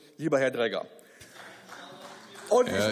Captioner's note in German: Beifall